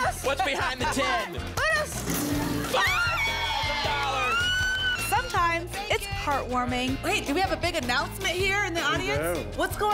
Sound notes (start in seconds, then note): 2.7 screams